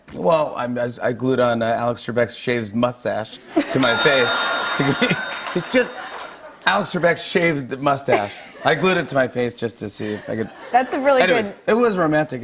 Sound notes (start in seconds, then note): 3.7 ding!